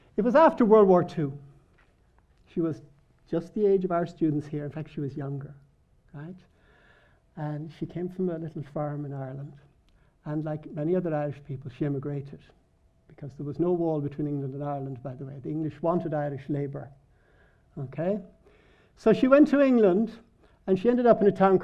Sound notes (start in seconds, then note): none